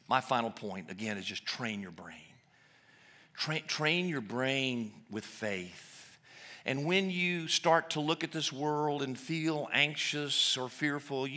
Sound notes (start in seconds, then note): none